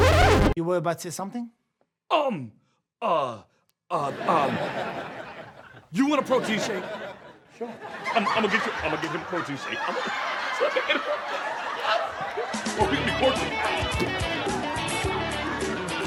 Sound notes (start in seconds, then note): 4.6 audience laughs; 7.5 audience laughs; 12.3 pleasant music